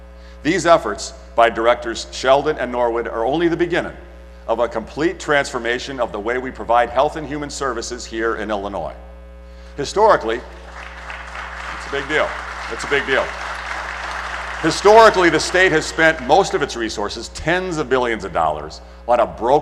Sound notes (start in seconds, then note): 10.4 applause